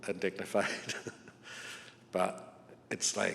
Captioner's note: chuckles